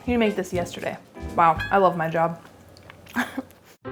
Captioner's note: chuckles